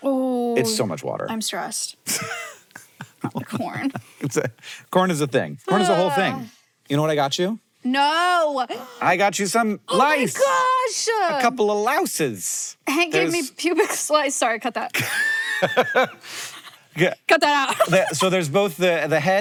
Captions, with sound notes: that it uses up. - Oh my gosh, the amount of water, ooh. - It's so much water. - I'm stressed about corn. (laughing) - Corn is a thing. Corn is a whole thing. You know what I got you? - No! - I got you some lice. - Oh my gosh! - A couple of louses. - Hank, gave me pubic lice. Sorry, cut that. (laughs) (laughs) Cut that out. - So there's both the head...